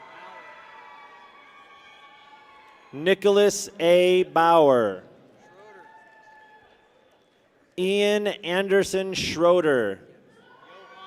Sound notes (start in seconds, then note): 0.0 people cheer; 5.4 people cheer; 10.4 people cheer